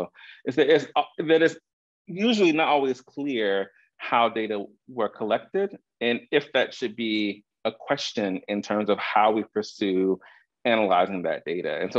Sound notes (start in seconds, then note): none